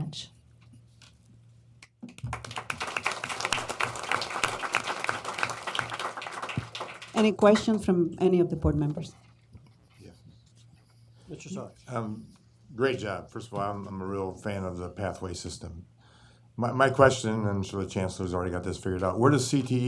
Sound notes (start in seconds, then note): 2.1 applause